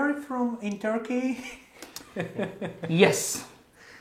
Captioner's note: Gülüşmeler